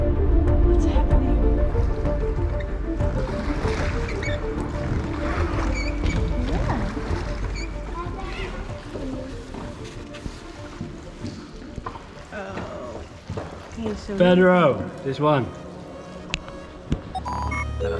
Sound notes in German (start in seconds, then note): 0.2 unheimliche Musik; 5.3 Ruder knarren